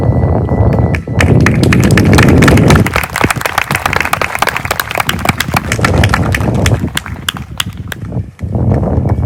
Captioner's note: applause